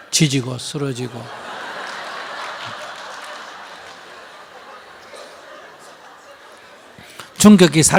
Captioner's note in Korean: 청중 웃음